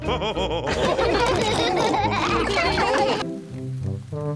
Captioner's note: all laughing